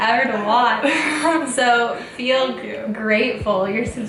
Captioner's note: laughs